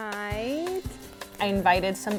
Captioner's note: audience snaps